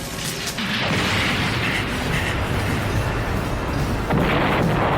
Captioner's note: electricity hissing; explosion booming